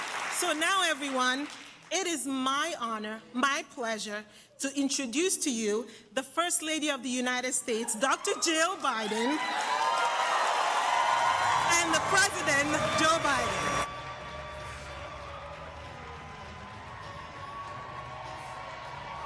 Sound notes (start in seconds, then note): 11.4 applause